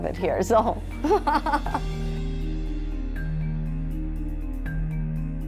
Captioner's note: laughs